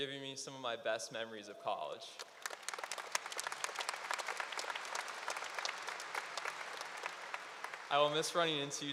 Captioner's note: applause